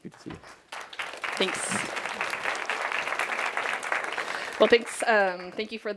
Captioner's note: audience applauding